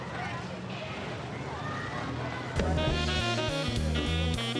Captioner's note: many students voices